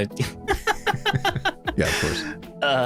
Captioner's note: laughing